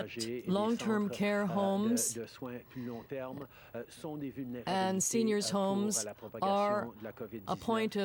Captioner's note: speaking french